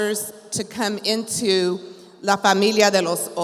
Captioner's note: speaks in Spanish